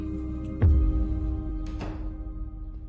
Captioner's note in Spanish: Ruido al abrir la puerta